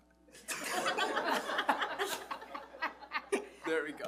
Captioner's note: audience laughs